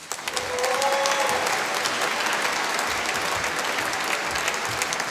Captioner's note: applause